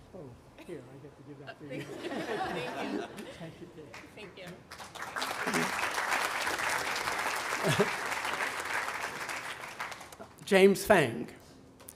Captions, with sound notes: Oh, here, I get to do that to you. - Thank you! Thank you. (audience applauding) - James Feng.